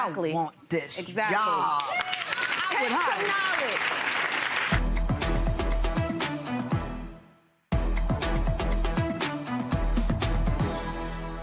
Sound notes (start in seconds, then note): 1.5 audience clapping; 5.0 dramatic music